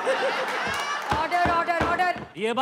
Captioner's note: All laughs; Gavel bangs